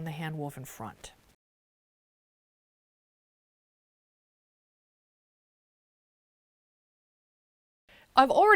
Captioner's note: no Sound Present